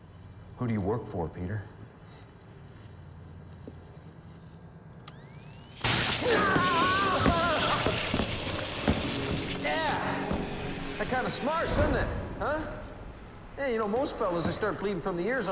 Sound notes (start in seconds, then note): 5.1 electricity crackling; 5.4 taser whirs; 6.1 Peter screaming